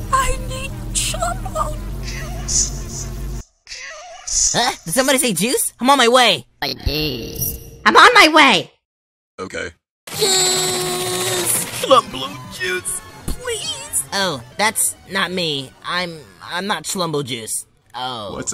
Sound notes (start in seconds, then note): 3.7 "JUICE" echoes; 6.6 "ID'S" echoes